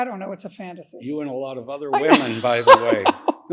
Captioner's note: laughing